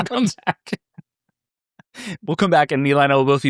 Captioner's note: laughing